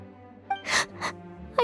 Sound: sobbing

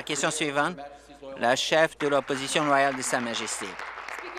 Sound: applause

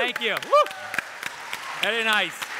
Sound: audience applaud

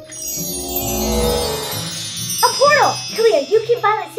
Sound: bells tinkle

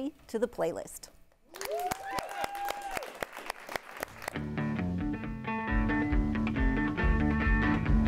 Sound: applause

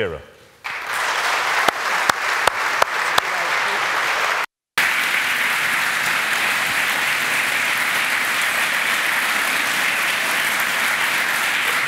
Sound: applause

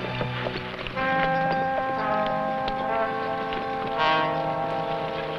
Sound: horse hooves pattering

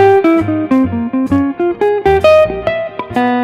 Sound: none

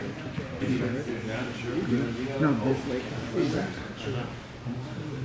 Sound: background voices chattering

